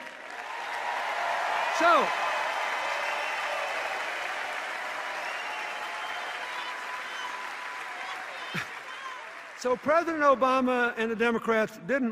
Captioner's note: cheers and applause